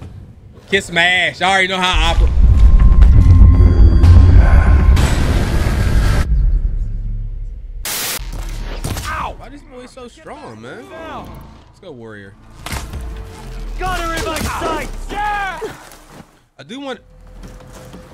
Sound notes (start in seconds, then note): 1.9 sudden ominous ambience; 5.7 crashing sounds